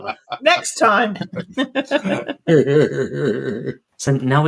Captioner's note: laughter